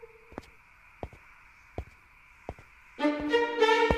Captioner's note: footsteps fall